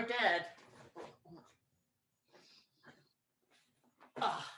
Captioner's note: shuffling sounds